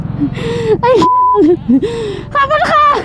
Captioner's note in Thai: ยอุทาน